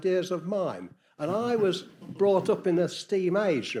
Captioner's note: audience chuckling